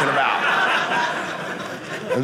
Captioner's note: audience laughing